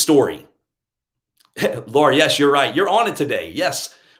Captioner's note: laughs